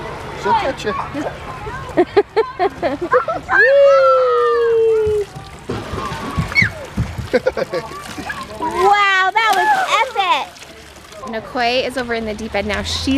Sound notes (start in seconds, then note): 1.9 laughs; 6.0 squeaks; 7.3 man laughs